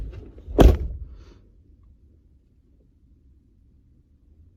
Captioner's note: car door slams